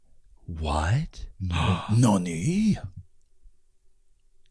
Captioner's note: gasps